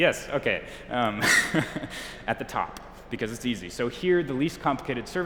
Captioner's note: chuckles